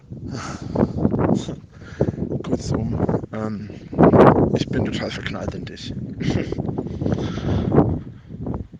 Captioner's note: filthy giggle